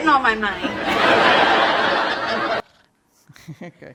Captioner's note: audience laughing